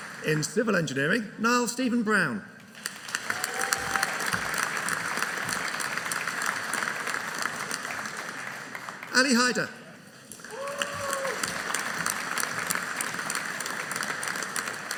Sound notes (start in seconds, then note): 2.8 audience applauding